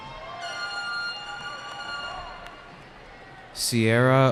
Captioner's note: cheering